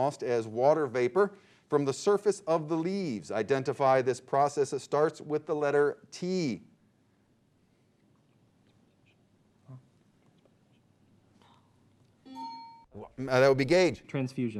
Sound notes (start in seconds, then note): 12.3 beep; 12.3 bell dings